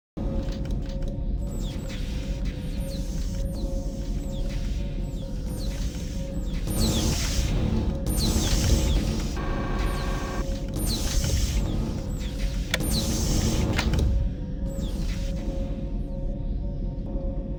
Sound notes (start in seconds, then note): 1.3 chaotic sounds of malfunctioning mechanisms; 14.4 foreboding ambient hum of unseen machinery in empty hallways